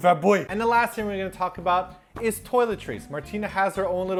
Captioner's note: normal voice